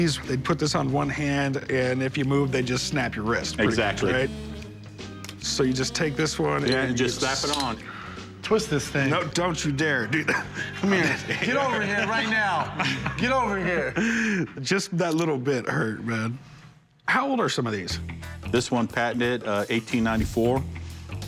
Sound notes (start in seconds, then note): 10.1 laughter